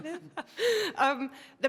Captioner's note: laugh